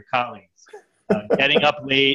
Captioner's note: laughing